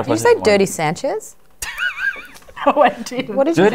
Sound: dry laugh

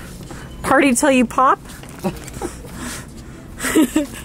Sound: laughs

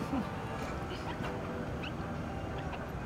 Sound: Savannah laughs to herself

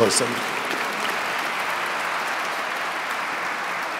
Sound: audience clapping

